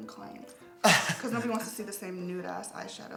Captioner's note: laughs